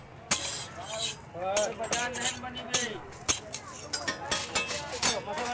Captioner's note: metal scraping